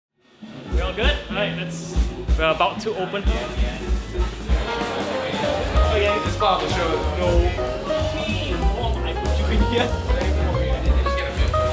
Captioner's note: pre-show chatter and banter